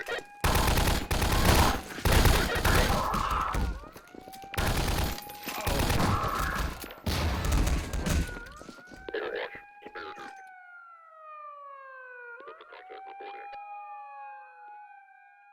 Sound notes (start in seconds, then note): 0.0 gunfight noises; 2.5 yell of pain; 4.3 alarm and gunshots continue; 5.5 grenade explosion; 8.5 alarm followed by unintelligible radio chatter